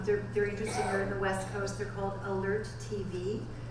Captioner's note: audience member coughing